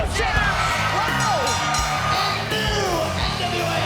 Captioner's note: bell dinging